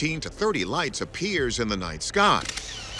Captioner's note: camera shutter clicks